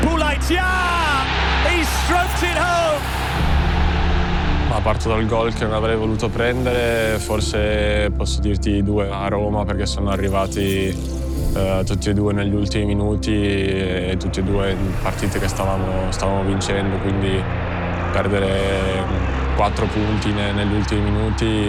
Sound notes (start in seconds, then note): 3.5 crowd cheering